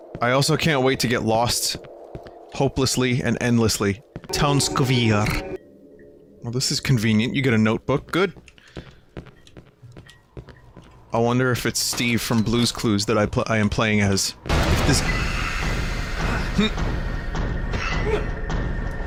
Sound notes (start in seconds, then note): 4.3 exaggerated Russian accent